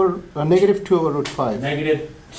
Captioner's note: voiceover